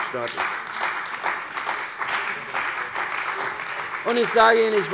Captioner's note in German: Beifall bei der CDU und dem BÜNDNIS 90/DIE GRÜNEN